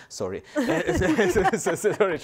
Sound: panelists laugh

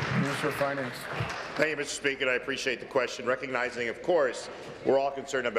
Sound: applause

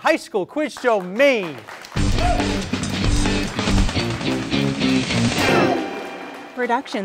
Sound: audience applauds; funky groove music

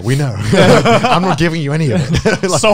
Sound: everyone laughs

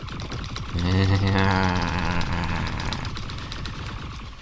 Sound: sinister growl

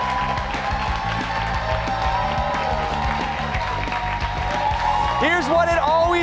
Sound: cheers and applause

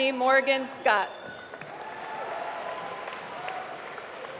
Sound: applause

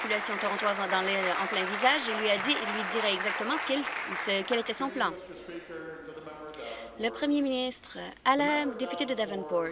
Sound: applause

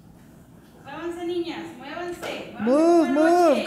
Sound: speaking in foreign language

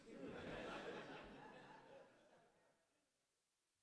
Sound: audience laughing

